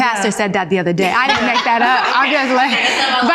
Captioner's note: ladies laughing